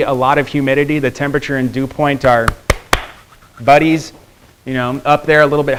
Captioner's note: clapping